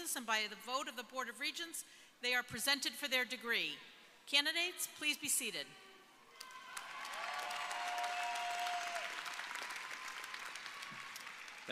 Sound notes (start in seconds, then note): 6.3 audience cheering